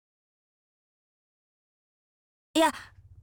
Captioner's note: disappointed silence